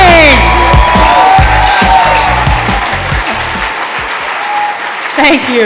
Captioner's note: cheering and applause